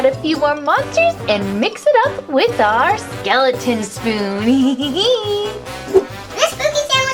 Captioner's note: laughs cheekily